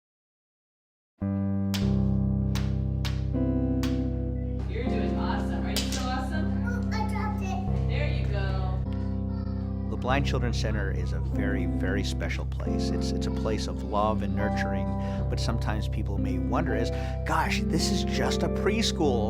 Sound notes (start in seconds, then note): 1.2 instrumental music; 2.1 tapping cane; 4.1 female voice; 7.5 female voice